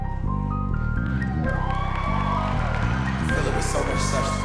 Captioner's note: audience cheering; audience applauding